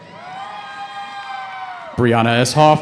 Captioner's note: cheering